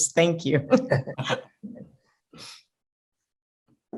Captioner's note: laughing